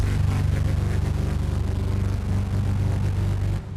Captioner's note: engine revving